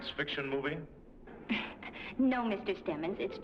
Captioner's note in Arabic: ضحكة مكتومة